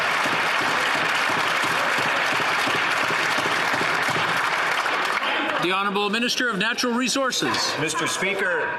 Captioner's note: some Applause